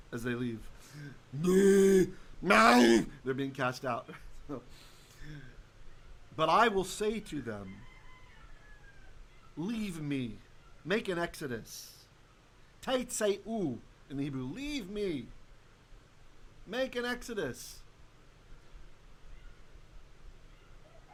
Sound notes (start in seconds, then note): 11.6 Hebrew